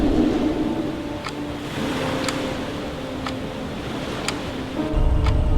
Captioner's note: clock ticking